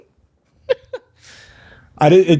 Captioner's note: laughing